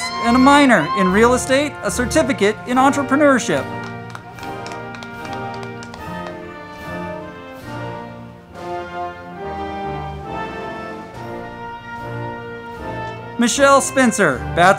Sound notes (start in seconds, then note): 2.7 crowd clapping; 4.1 band music